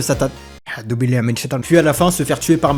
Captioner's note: backgroundnoisesofsomeonepanicpraying.wav